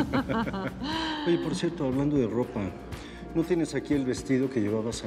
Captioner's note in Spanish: Risas